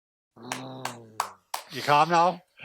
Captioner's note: clapping